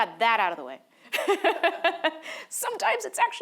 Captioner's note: laughing